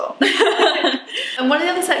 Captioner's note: laughs